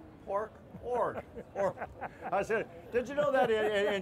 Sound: relaxed chuckles

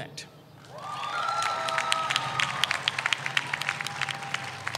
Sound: audience cheers

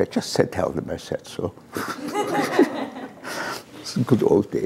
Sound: laughter

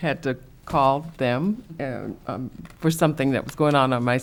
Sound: none

